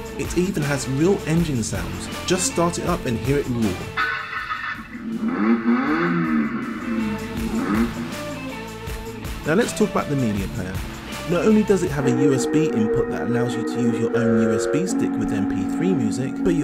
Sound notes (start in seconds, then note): 3.9 engine revs; 6.8 upbeat rock music